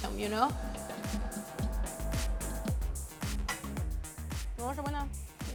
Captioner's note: machine whirs